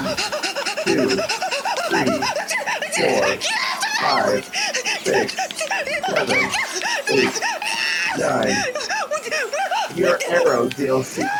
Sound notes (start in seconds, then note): 2.4 hyperventilating; 4.5 continues to hyperventilate; 9.3 full on panic noises